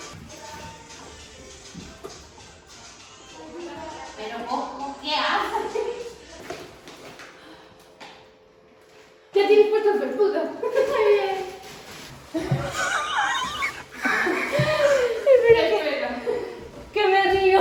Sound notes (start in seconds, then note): 14.7 laughs